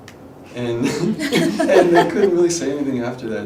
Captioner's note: laughing